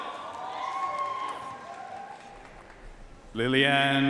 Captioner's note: audience cheering and applauding